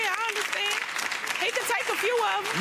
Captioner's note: audience claps